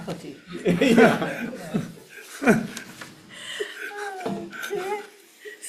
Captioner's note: everyone laughs